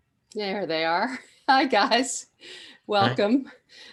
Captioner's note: laughs